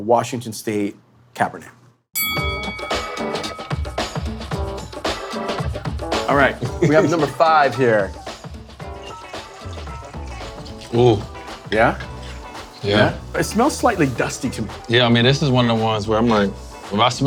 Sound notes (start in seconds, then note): 2.1 bell dinging; 8.1 chill instrumental music continues